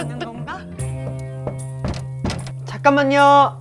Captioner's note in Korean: 똑똑